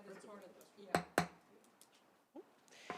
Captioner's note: gavel hitting dais